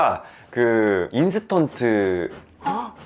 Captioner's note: scratch!; scratch!!; scratch!!!